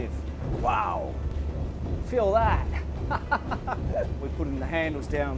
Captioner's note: laughter